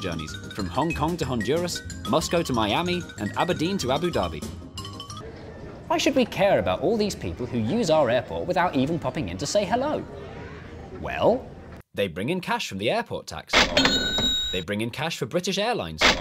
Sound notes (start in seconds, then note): 13.5 ka-ching; 16.0 ka-ching